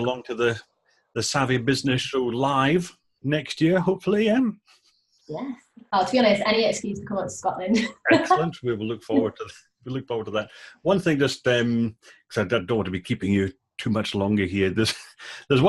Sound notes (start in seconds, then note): 7.7 laughing